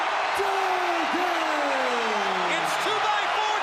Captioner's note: crowd cheering